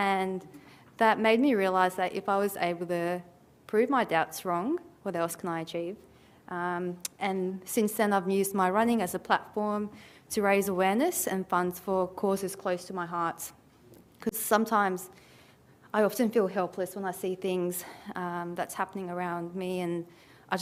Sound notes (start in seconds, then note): none